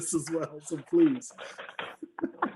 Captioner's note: laughing